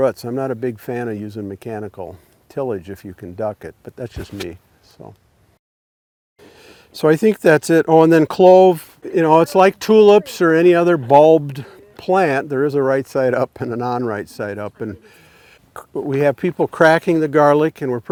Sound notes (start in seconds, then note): 13.5 chuckles